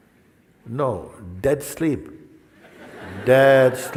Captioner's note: risadas